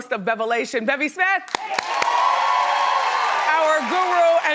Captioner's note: crowd cheers